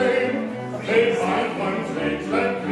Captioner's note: JESTER, helpfully